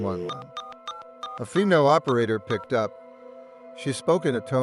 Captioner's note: dialing